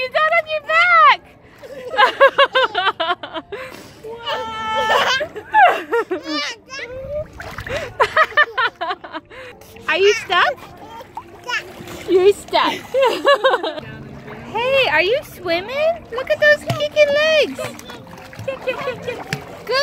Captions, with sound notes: You got on your back. (laughing) Are you stuck? Hey, are you swimmin'? Look at those kickin' legs. Good job.